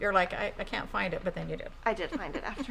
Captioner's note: laughing